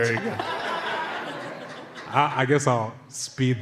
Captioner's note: laughter